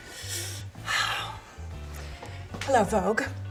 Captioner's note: upbeat music; sighs